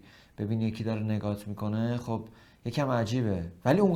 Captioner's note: none